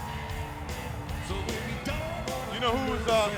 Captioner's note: crowd cheering